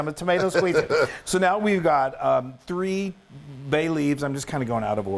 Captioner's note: laugh